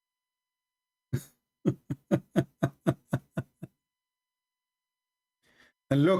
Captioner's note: Ketawa